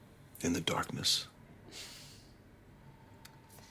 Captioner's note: sighs